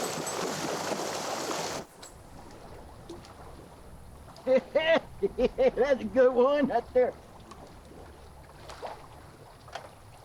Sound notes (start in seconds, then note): 4.7 laughs